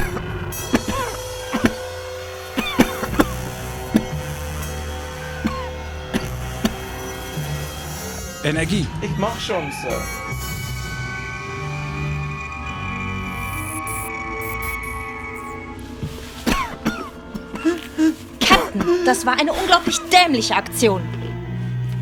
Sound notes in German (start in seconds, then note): 0.1 dramatische Musik; 10.8 Transportersummen; 17.3 keucht